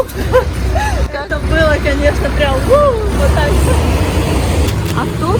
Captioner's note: laughing